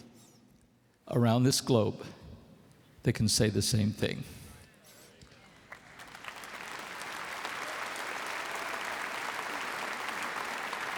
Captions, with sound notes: around this globe that can say the same thing. (applause)